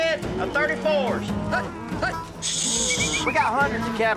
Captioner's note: whistling